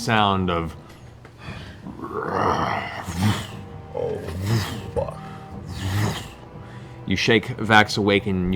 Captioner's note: roar, sweeping wings